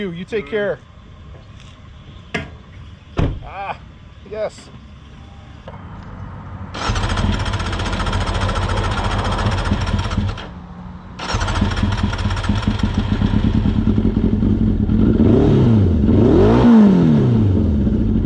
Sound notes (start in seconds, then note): 6.7 starter turning; 13.3 engine firing; 15.3 big revs